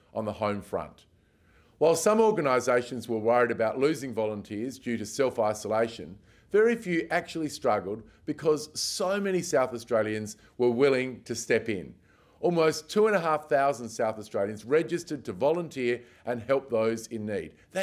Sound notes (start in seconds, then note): none